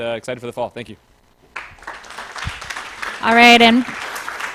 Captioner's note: applause